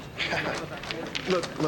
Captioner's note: chuckles